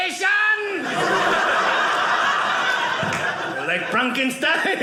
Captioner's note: audience laughing